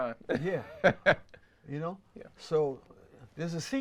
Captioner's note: laughs